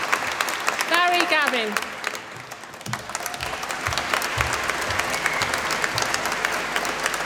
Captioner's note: applause